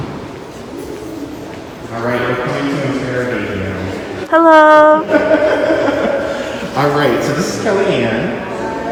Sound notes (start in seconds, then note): 5.0 laughs